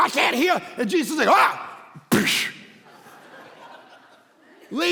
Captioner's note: congregation laughing